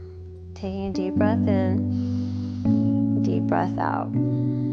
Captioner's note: breathes